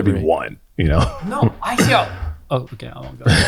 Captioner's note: laughs